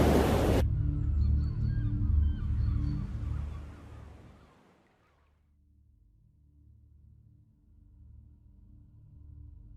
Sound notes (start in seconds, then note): 3.0 gulls squawking